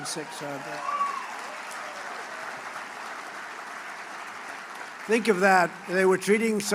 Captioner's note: applause